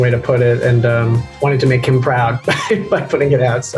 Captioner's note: Michael laughs